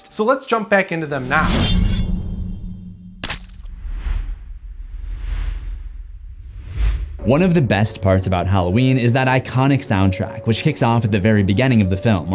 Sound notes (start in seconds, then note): 1.4 knives sharpening; 2.3 ominous music